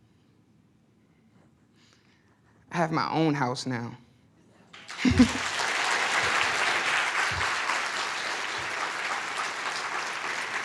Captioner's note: applause